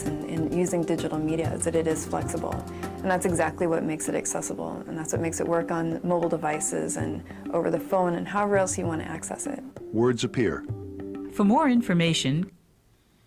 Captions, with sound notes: and using digital media is that it is flexible. And that's exactly what makes it accessible and that's what makes it work on mobile devices and over the phone and however else you want to access it. - [Voiceover] Words appear. - [Voiceover] For more information.